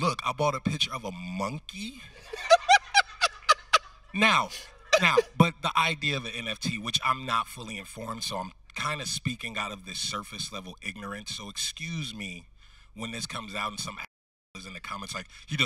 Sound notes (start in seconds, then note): 1.9 host laughing